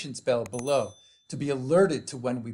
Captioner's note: bell rings